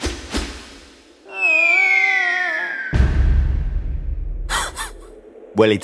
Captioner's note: BANG! Dog laughs